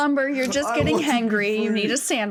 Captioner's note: sobbing